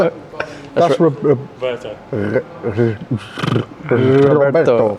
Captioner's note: stuttering